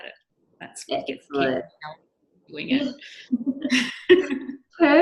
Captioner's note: microphone cutting out